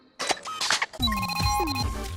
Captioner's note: electronic beeping